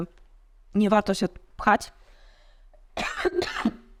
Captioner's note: coughs